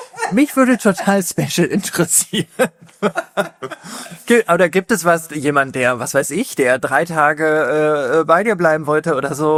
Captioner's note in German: gelächter; gelächter